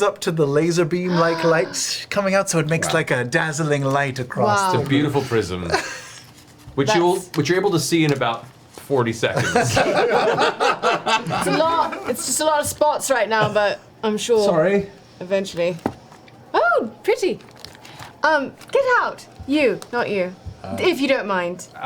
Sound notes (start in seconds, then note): 9.4 all laugh